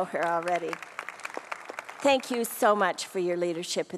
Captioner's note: applause